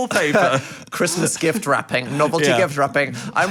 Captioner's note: laughing